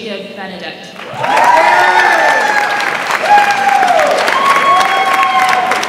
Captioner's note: audience applauds and cheers